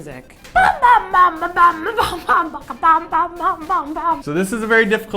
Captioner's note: crazy noises made